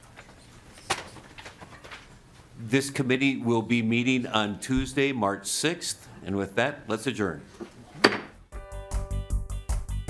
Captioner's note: gavel